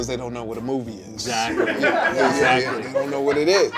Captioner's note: people laughing